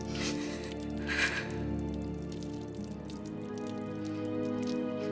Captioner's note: deep breathing; soft suspenseful music